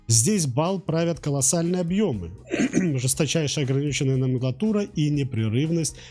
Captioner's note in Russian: откашливается